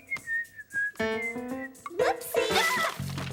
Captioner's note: whistling